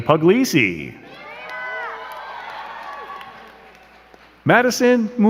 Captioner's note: crowd cheering and clapping